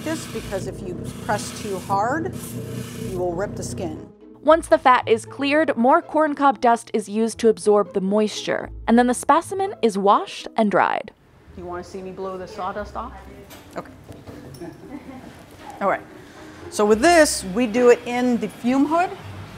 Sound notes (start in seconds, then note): 14.4 chuckling